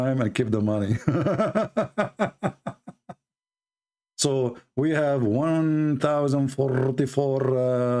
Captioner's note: Ketawa